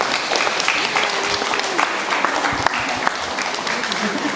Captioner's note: applause